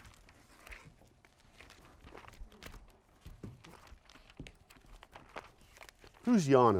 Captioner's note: papers rustling